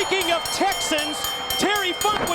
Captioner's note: bell ringing